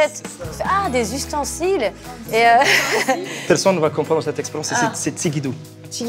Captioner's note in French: rires